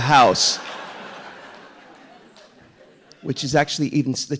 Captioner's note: audience laughing